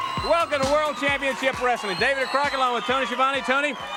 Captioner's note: crowd cheering